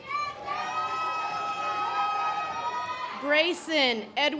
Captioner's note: audience applause